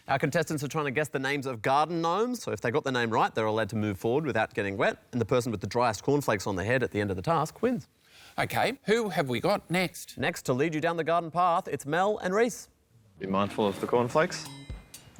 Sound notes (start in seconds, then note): none